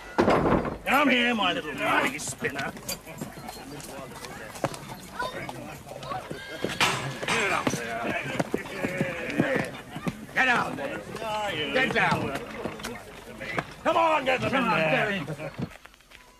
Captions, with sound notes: Come here, my little money-spinner! (Chatter) Get up there. - Yeah, get down there! - Ah, you little... Get down there. Come on, get them in there!